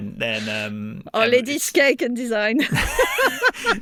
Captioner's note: laughs